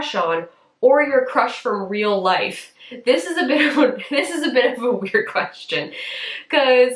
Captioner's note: chuckles